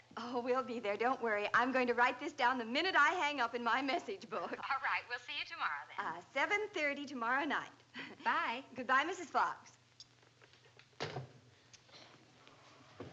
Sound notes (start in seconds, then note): 4.4 on phone